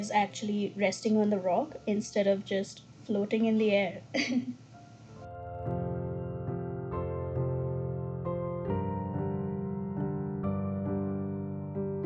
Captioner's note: laughs